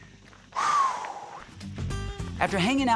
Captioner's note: exhaling